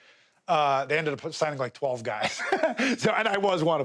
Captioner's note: laughs